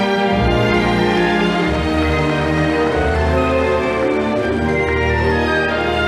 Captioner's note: audience applauding